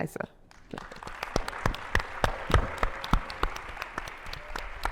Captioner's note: attendees applauding